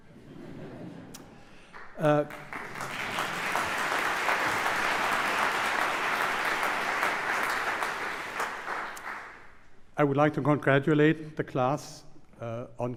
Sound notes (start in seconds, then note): 1.7 applause